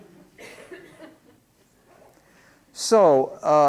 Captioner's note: laughter